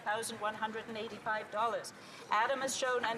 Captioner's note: none